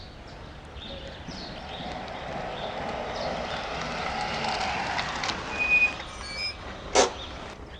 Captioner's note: car Approaches